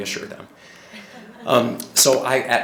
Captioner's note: audience members laughing